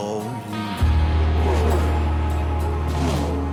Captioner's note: cars accelerating